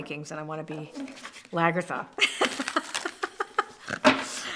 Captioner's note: laughs